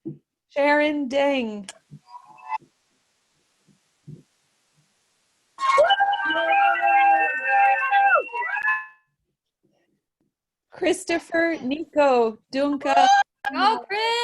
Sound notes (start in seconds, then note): 2.7 cheering